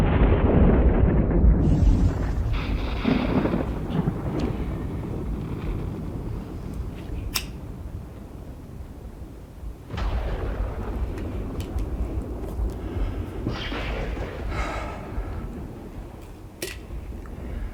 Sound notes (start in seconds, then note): 3.8 thunder rumbling; 7.2 lighter clicks; 11.3 thunder rumbling; 14.4 Madame exhales